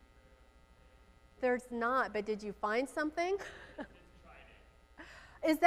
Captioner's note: laughs